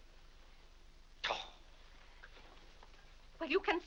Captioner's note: Mr. Day huffs